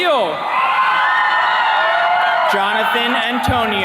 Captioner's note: attendees cheering